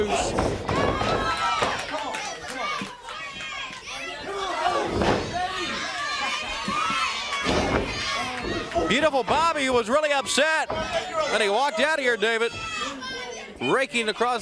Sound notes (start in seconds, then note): 2.5 crowd chatter